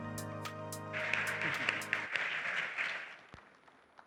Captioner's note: applause